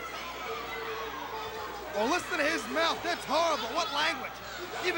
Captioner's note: crowd chatter